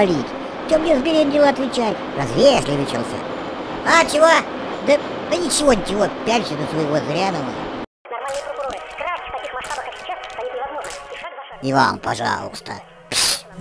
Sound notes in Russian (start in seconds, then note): 8.2 звуки ютуба и хруст